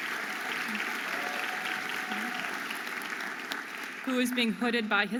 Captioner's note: audience applauding and cheering